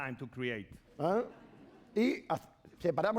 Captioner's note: speaking spanish